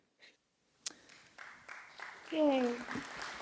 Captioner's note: applause